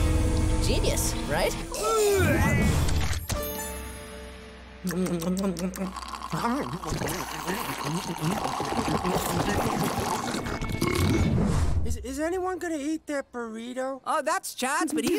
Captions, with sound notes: Genius, right? [gagging] [slurping] Is anyone going to eat that burrito? Oh, that's Chad's but he's-